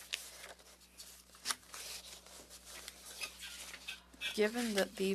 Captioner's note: speaking French